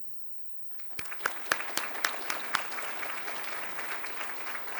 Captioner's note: applause